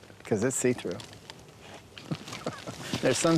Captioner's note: laughs